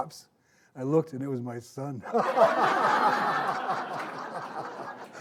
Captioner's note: all laughing